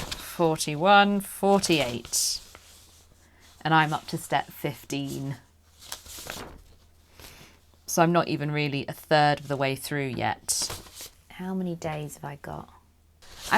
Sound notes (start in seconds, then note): none